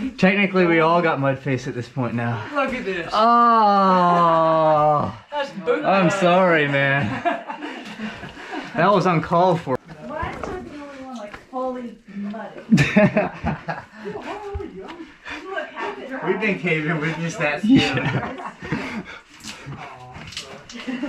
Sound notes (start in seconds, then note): 12.5 laughing; 16.9 laughing